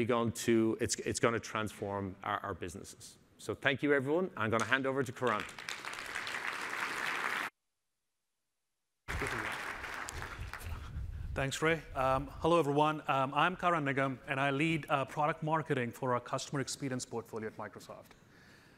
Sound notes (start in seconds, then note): 5.2 applause